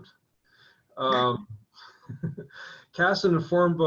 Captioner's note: laughing